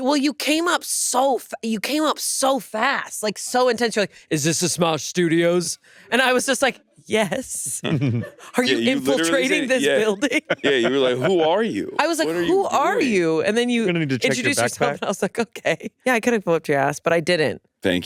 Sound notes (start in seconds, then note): 7.8 laughs; 14.0 laughs